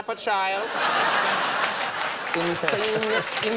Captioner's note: audience laughs